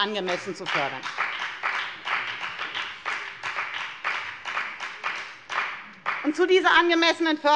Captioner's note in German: Beifall bei der FDP und bei Abgeordneten der SPD